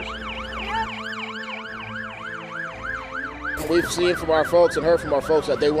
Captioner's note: siren